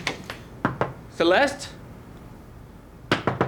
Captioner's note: knocking